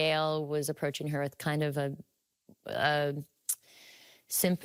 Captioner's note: clicking tongue